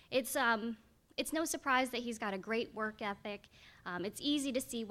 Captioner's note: none